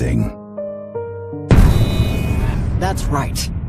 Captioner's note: harsh metallic clang